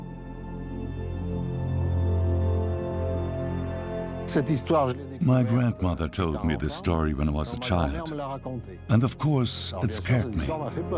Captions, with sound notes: (French dubbed into English) My gran told me the story when I was a child, and, of course, it scared me.